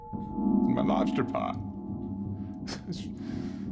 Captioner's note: mutters